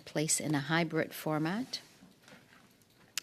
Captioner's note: speaking French